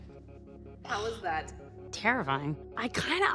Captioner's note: exhales